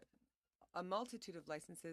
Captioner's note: speaking French